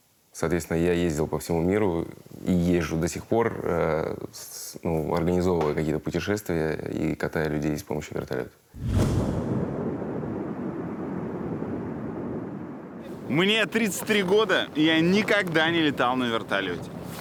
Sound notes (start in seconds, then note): 8.7 wind blowing